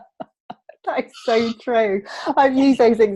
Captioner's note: laughs